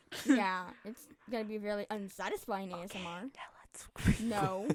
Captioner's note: whispering